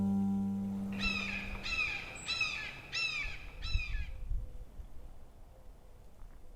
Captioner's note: hawk screeches